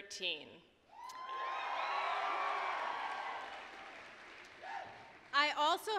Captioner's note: applause, cheering